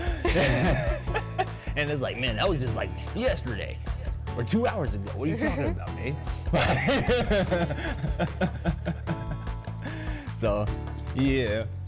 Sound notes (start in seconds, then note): 0.0 both laugh; 6.5 laughs